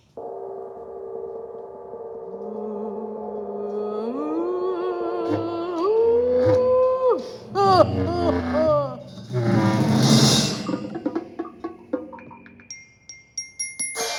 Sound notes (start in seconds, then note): 2.6 woman moaning; 7.0 chaotic music